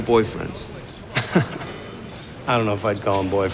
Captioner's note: chuckle